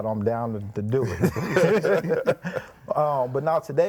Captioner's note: group laughing